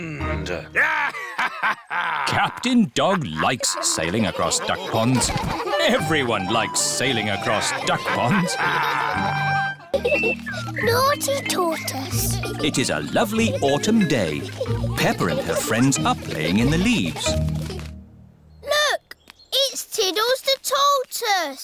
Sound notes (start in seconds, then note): 0.1 laughs; 8.3 all laughing